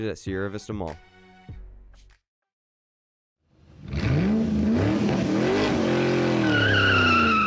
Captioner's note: car Reving